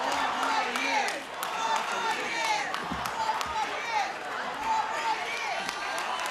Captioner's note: crowd applauding